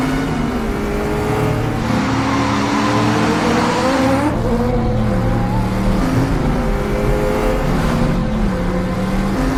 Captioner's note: car and motorcycle racing sound